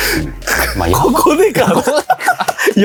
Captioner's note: laughs